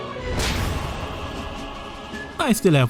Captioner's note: Super Smash Bros. Sound